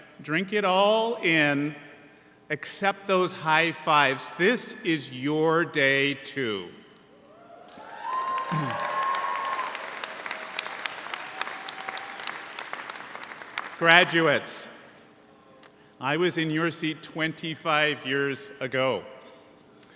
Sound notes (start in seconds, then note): 7.3 audience cheers; 7.6 audience applauds